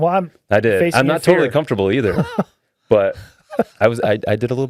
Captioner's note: laughing